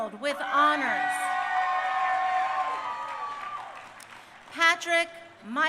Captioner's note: crowd cheering